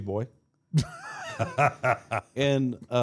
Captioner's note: Mark laughs